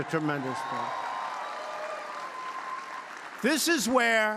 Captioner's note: applause